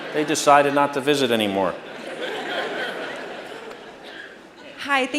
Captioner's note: laughter